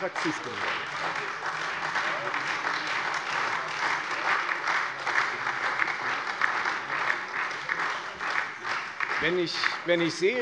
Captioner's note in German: Beifall Freie Demokraten und SPD